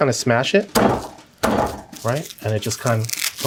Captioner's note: table banging